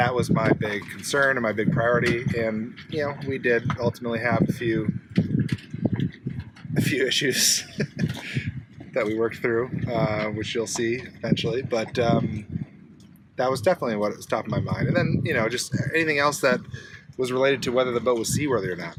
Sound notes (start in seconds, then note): 7.3 laughs